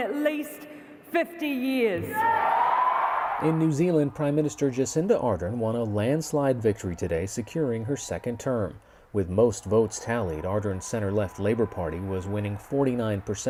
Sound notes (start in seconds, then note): 7.7 cheers and applause